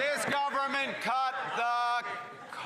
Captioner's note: cheers & Applause